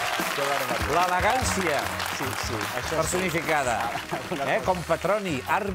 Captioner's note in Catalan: aplaudiments